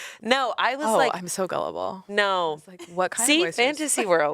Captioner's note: none